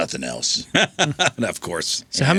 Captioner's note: laughing